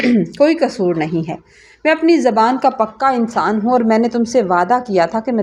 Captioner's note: clears throat